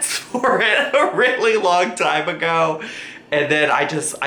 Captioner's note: laughs